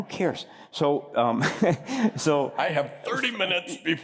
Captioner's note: laughter